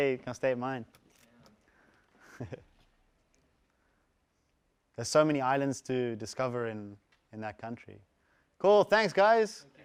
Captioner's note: laugh